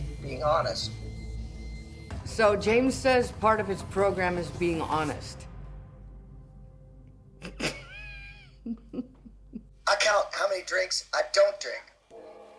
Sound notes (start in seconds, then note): 7.4 laughs